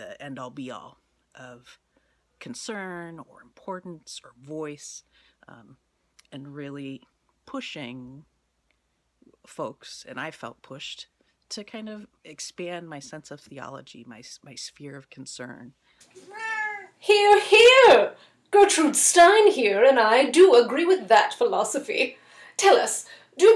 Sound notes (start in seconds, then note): 16.2 meow